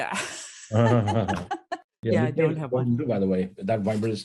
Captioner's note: laugh